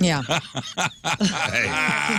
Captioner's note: laughter